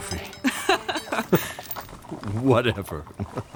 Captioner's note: Sophie Laugh